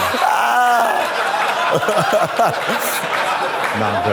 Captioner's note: audience laughs; Trixie chortles